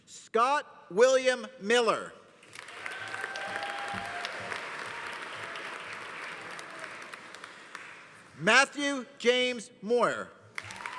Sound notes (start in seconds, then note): 2.4 audience applauding; 2.6 audience cheering